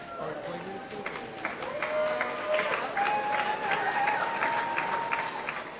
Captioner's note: audience applauding